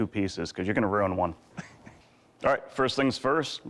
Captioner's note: chuckles